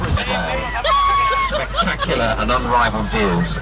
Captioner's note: tour guide talking on speakers; screams and laughter